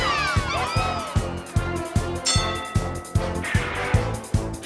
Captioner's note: bell dings